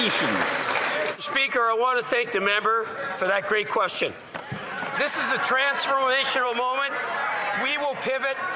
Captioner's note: some Applause